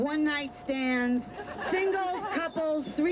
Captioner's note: laughter